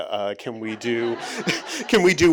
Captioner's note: audience chuckling